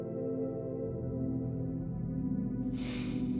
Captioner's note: sighs